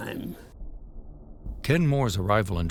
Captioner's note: airplane engines droning